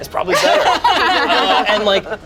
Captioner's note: group laughs